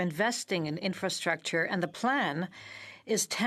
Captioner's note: speaking in French